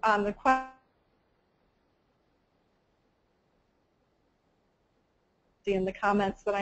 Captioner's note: audio cut out